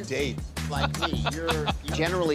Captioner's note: laughter